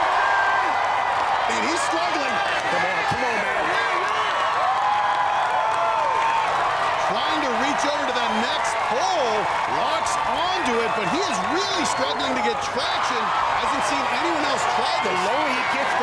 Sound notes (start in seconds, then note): 7.4 cheers and applause